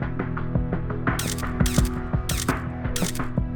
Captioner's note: camera shutter clicking